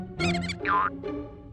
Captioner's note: mouse squeaks